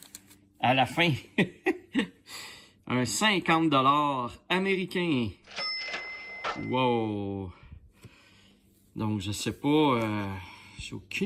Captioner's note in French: rires